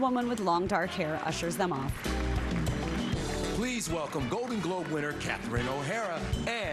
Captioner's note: applause